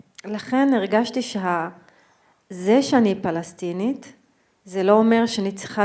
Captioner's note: speaking in foreign language